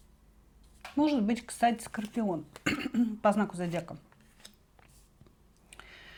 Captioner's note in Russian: откашливается